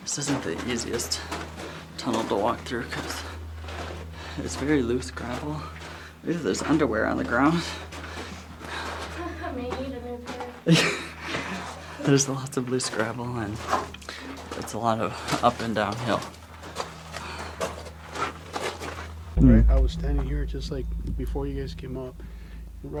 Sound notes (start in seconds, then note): 16.8 gravel crunching